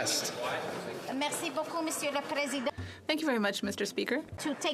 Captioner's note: speaking French